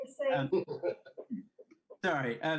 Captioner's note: laughs